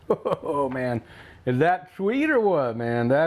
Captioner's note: chuckles